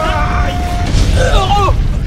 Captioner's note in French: explosion